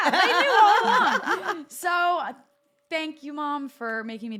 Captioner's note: laugh